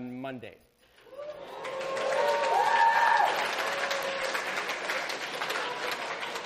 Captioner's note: students cheer